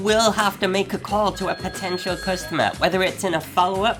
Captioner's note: phone rings